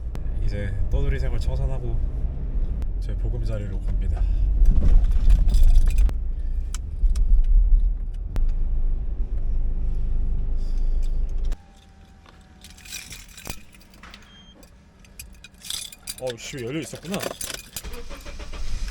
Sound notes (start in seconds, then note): 4.2 bump